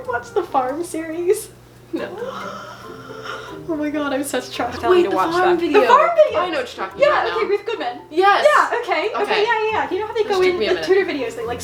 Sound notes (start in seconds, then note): 2.2 gasps in shock and horror